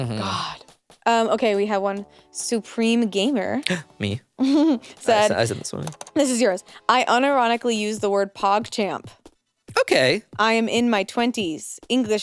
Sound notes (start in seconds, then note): 3.9 gasps; 4.4 laughs